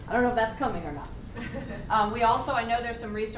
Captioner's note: laughter; laughs